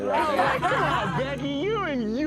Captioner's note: everyone laughs